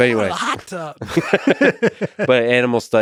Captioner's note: both laughing